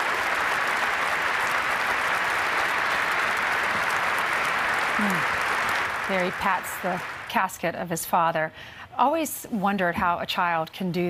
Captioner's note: applause